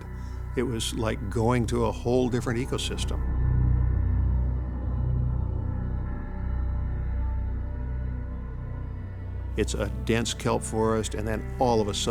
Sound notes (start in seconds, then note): none